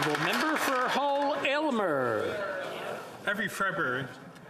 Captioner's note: applause